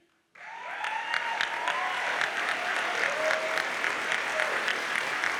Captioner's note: audience cheers and applauds